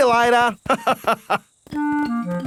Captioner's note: laughs